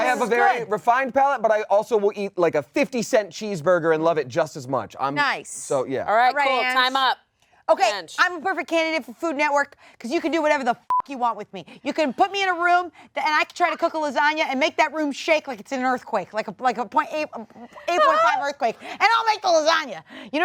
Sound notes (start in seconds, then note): 11.0 beeps